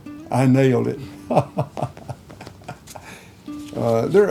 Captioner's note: laughing